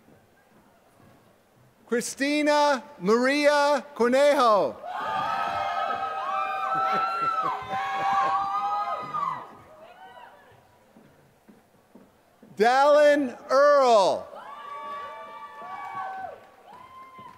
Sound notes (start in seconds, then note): 0.0 applause; 6.6 laughter